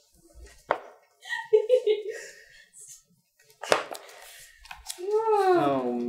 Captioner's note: background giggle fit